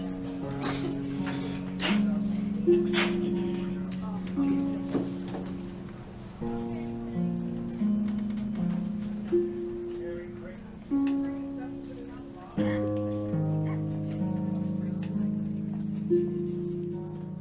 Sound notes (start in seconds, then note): 1.7 woman sneezing; 12.6 coughing